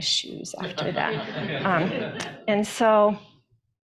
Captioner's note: attendees laughing